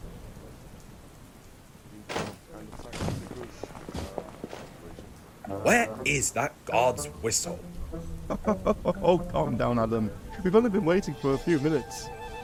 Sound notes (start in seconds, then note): 2.3 carriage doors shut; 8.2 driver laughs